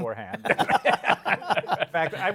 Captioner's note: laughter